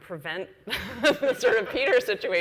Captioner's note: laughs